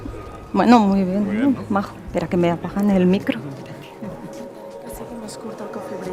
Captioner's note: speaking in foreign language